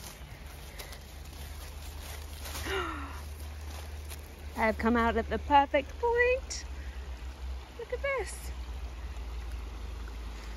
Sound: gasps

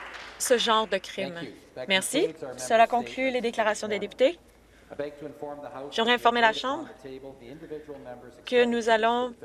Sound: some Applause

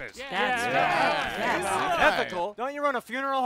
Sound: crowd murmuring agreement

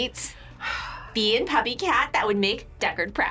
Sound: sighs

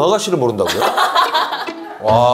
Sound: hahaha

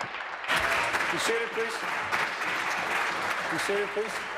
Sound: applause

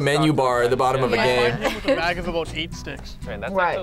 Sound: laughs

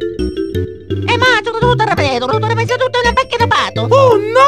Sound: italian gibberish

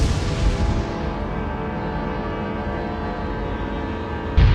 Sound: thunder crashes

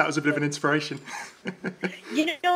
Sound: laughs

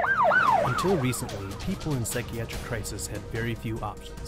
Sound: deeply Voice

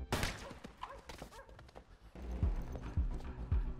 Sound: gun firing

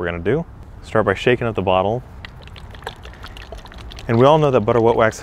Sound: liquid sloshes

